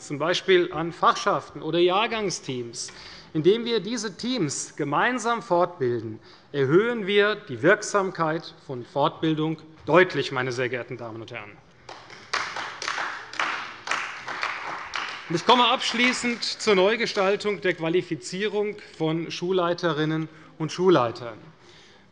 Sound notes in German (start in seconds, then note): 11.8 Beifall bei der CDU